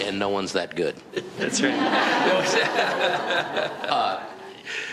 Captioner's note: all laughing